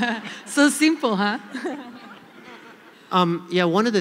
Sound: laughter

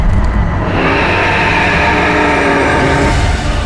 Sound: roars

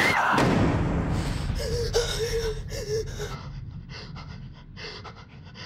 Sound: heavy breathing

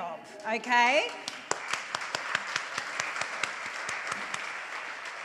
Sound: audience applauds

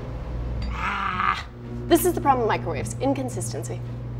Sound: growls

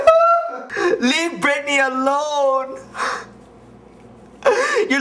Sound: sobs; wailing

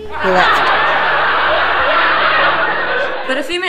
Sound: laughing

